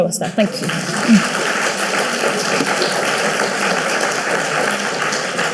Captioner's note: audience clapping